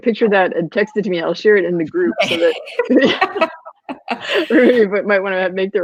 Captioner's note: laughing